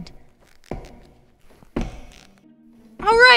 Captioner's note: steps